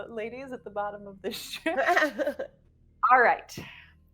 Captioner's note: person chuckling